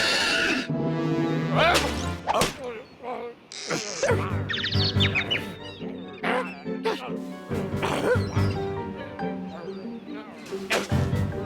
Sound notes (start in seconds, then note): 4.5 birds tweeting; 10.5 grunts